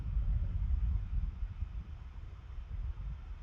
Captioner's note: none